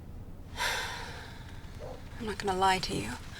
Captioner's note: sighs